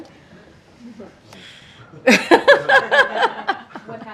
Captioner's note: laughter